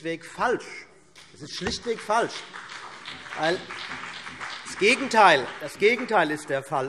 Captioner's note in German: Beifall CDU und BÜNDNIS 90/DIE GRÜNEN